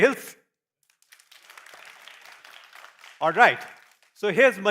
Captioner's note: applause